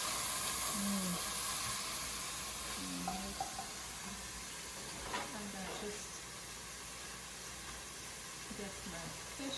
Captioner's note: sizzling